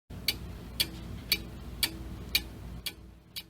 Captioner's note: clock Ticking